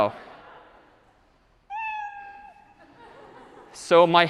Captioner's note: meow